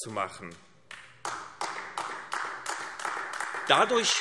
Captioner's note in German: Beifall AfD